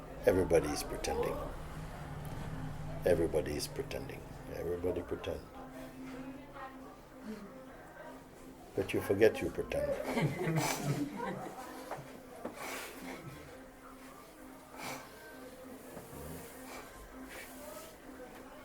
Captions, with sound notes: Everybody is pretending. Everybody is pretending. Everybody pretends. But you forget you pretend. [laughter] [long silence]